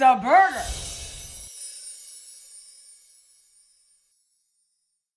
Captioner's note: bells tinkling